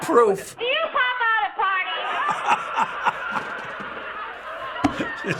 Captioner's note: laughs